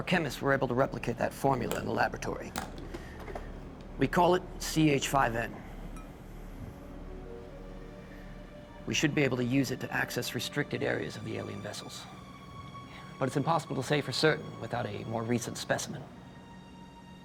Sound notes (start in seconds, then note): none